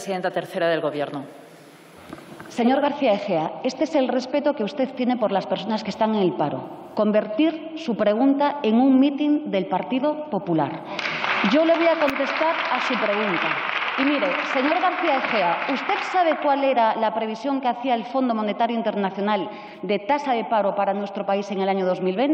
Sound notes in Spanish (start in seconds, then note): 10.9 Aplausos